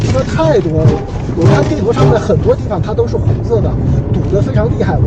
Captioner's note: congested